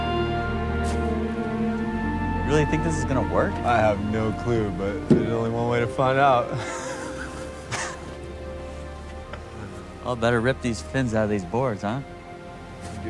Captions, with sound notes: You really think this is gonna work? - I have no clue, but there's only one way to find out. (both chuckling) - Well, I better rip these fins outta these boards. Huh?